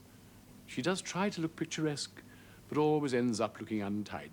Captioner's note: none